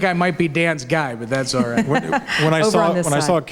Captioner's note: laughs